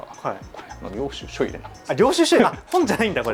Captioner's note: laughs